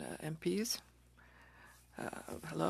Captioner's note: speaking French